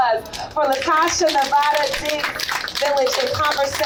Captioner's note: applause